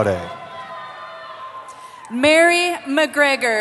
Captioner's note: cheering